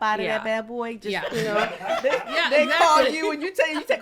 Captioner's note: all laugh